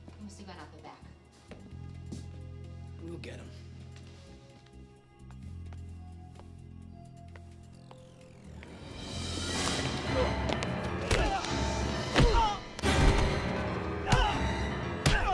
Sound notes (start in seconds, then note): 5.2 crickets chirp; 5.2 shoes tap; 8.7 music intensifies; 9.5 Ryan cries out